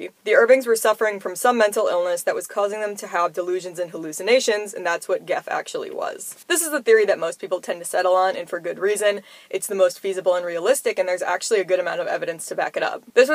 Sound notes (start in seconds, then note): none